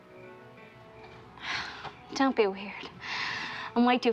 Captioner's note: sighs